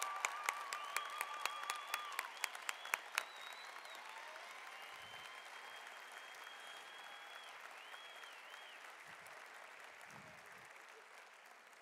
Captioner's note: applause